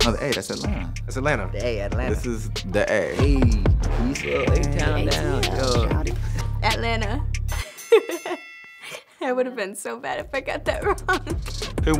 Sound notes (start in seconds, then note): 7.5 bell rings; 8.4 laughs